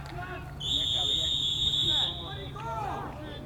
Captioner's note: whistle